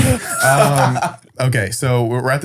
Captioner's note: laughs